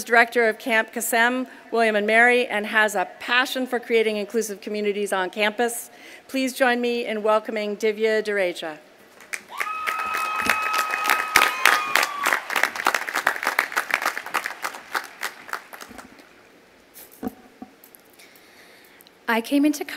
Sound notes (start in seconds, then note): 14.5 applause